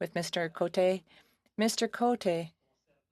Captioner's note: speaking French